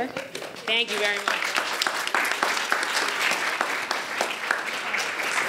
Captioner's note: audience applauds